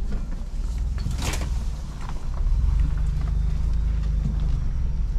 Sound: cracking sound

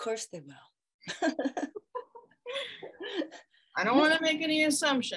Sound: laughing

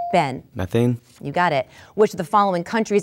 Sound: dinging

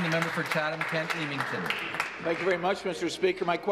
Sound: applause

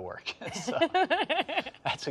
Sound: laughs

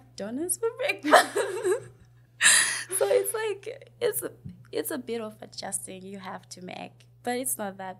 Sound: laughs

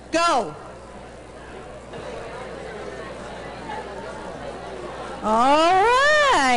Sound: background chatter

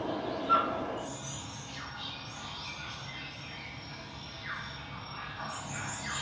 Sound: birds chirping

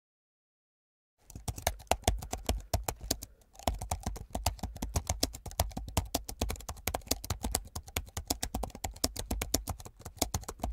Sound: sound of keyboard typing

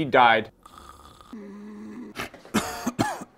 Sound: snoring

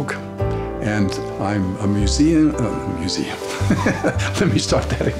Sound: laughs

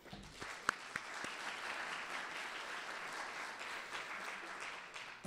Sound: audience applauding

